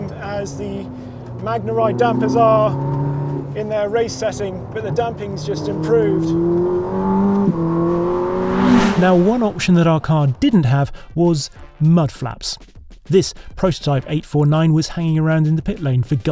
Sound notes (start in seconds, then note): 7.6 engine rumbles